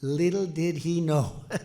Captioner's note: laughs